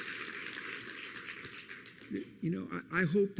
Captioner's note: applause